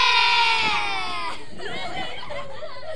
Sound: children cheers

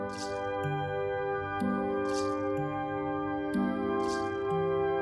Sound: soft rattling

